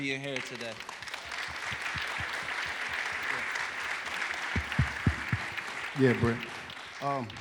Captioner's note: applause